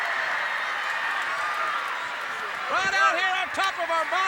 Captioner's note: crowd cheering